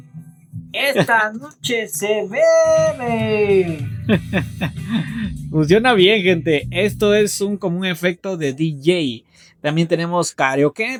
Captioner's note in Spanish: risas